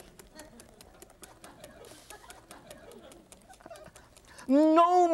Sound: audience chuckles

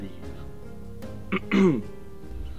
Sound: clears throat

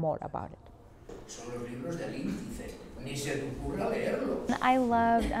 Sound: speaking Spanish

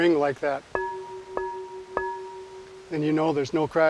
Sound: pottery rings

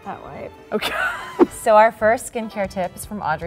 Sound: laughing

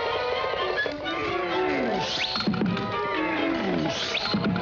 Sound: whinnying

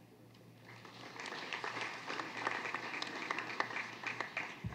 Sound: applause

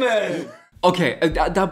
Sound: laughs

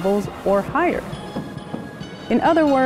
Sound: sonic boom

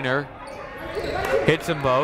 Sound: shouting

